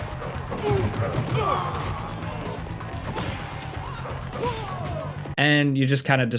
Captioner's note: blows thudding; officers grunting